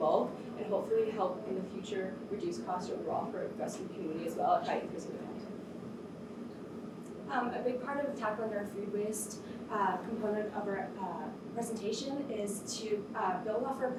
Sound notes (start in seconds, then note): 5.3 air conditioner hums